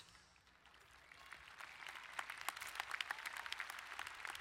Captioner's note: applauding